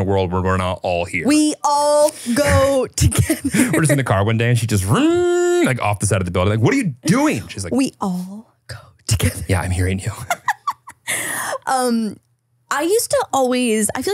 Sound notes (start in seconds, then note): 5.0 makes revving sound; 10.2 laughs